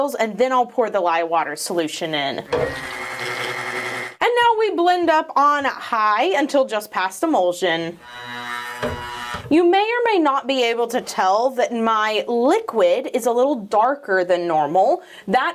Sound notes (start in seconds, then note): 2.4 blending purring; 8.7 blender humming